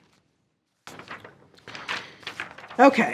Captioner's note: paper crackling